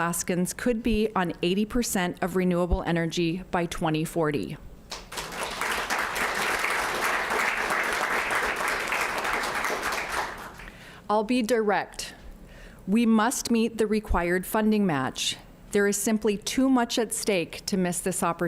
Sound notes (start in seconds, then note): 10.4 applause